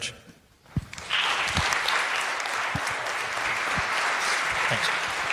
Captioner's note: crowd applauds